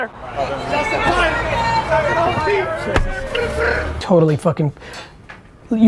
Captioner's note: people shouting happy birthday